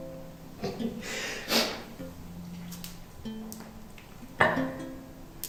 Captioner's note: crying